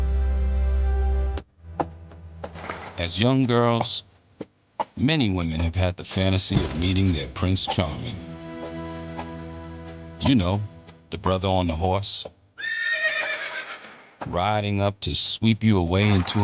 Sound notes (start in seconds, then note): 12.6 horse whinnying